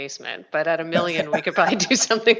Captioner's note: both laughing